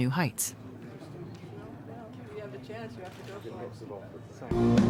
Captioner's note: chatter